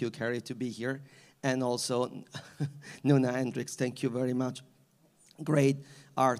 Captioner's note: laughs